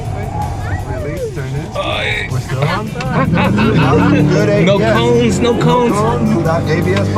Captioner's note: laughter